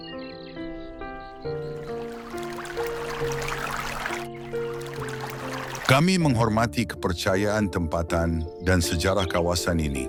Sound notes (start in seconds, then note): 2.1 applause